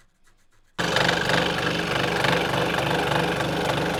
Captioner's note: saw grinding